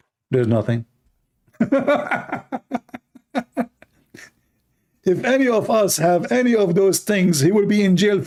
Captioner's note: Ketawa